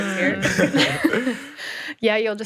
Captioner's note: group laughing